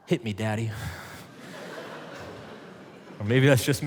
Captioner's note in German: alle lachen